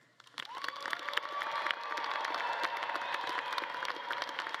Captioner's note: audience claps and cheers